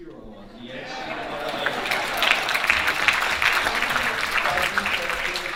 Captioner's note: audience applauding